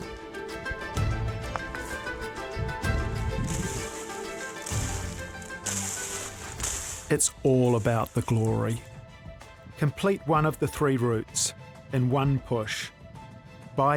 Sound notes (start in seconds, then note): 0.3 dramatic uplifting music; 3.0 footsteps crunching ice